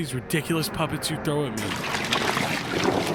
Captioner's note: water sloshes